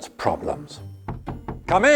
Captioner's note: knocking